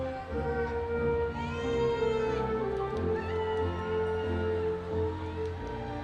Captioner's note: audience continues cheering